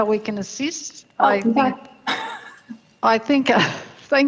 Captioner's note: chuckles